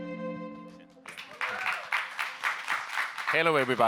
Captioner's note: audience members applauding